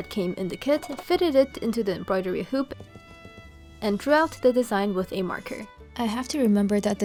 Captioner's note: tap tap tap